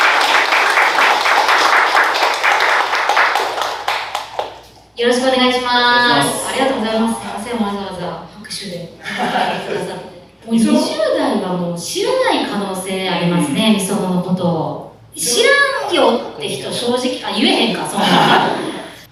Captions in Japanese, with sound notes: (拍手) よろしくお願いしまーす。ありがとうございます。すみません、わざわざ拍手でお迎えくださって。 20代は知らない可能性がありますね、misonoのこと。知らんよって人、正直、言えへんか。